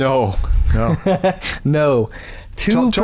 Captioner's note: chuckles